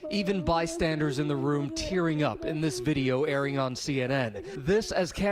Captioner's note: speaking a foreign language